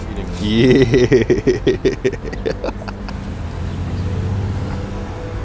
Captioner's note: laughs